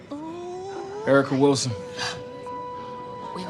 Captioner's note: none